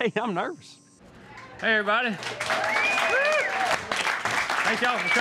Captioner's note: applause